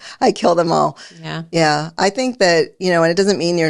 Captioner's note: laughs